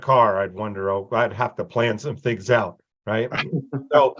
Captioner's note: chuckles